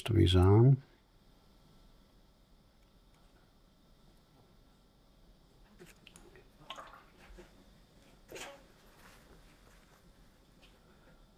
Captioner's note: silence